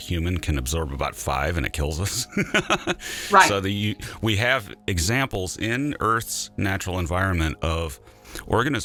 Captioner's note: laughter